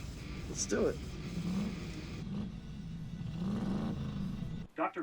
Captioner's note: loud engine acceleration